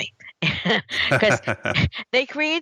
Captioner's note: both laugh